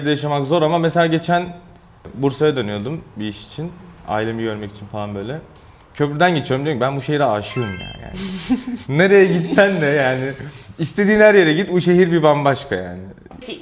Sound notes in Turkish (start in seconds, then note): 8.2 kahkaha